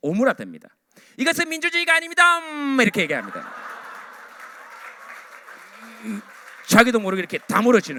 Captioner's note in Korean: 으으음